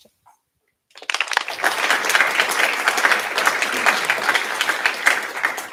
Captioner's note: applause